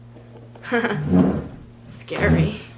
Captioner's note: giggles